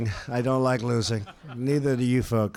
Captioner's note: laughter